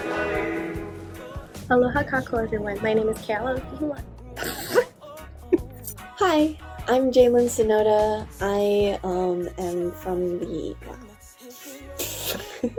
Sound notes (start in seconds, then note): 4.3 chuckles; 4.3 stutters; 11.6 laughs